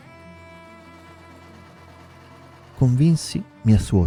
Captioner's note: sewing machine